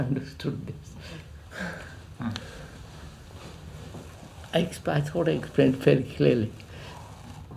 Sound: laughs

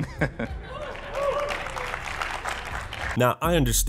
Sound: awkward laughter; couple of people cheer and clap

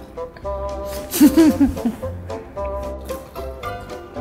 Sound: laughs

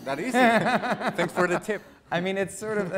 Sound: laughing

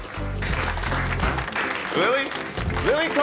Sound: crowd applauding

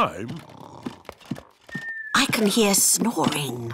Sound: snoring

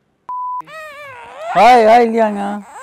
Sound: baby crying

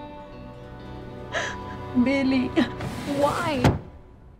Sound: sobs

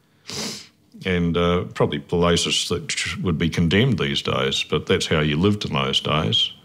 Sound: sniffs

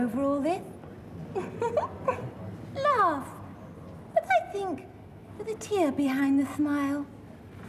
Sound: simpering

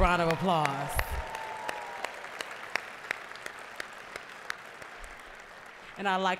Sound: applause, cheering

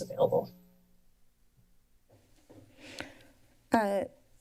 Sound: silence

